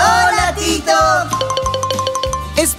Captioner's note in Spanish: Sonido de campana